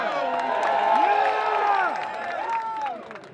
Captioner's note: applause and cheering